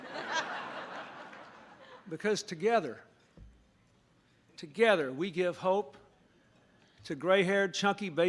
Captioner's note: laughter